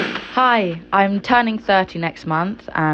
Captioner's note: radio whirring